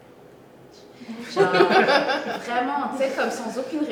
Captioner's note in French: rires